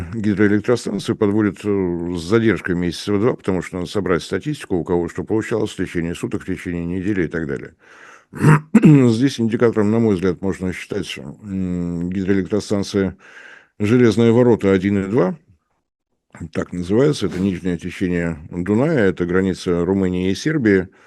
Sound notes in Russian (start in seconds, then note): 8.3 откашливается; 8.3 кашель